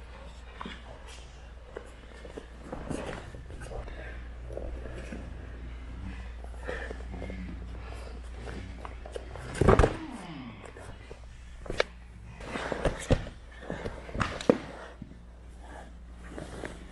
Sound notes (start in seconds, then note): 9.2 body thunks